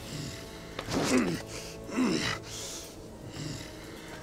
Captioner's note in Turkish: İnleme sesi